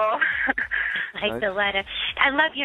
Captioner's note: laughs